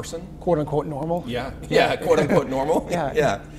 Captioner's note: laughter